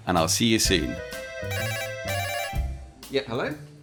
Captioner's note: ring ring